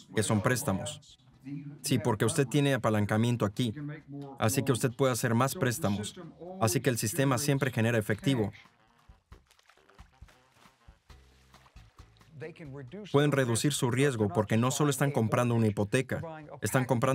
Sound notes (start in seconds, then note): 11.4 water splashing